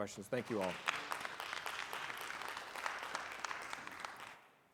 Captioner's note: audience applauding